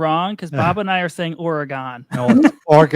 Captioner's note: chuckles